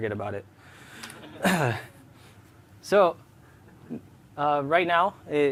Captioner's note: laughter